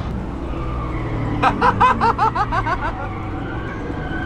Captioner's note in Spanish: risas